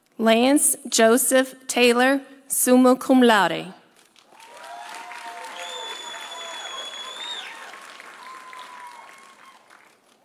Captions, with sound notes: Lance Joseph Taylor, summa cum laude. (audience cheering) (audience applauding)